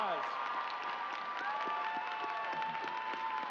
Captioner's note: cheers and applause